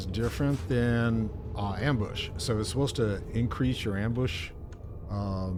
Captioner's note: none